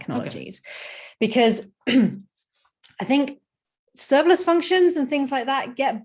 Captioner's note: clears throat